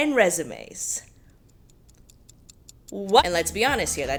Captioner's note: clock ticking